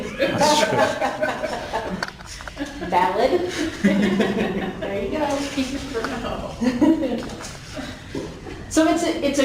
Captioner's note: laughing